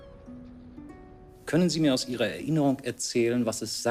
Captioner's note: in German